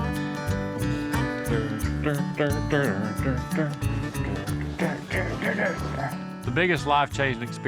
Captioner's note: humming